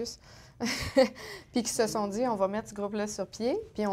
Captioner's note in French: rires